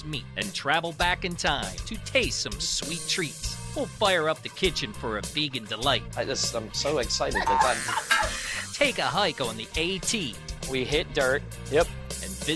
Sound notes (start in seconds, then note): 7.2 laughs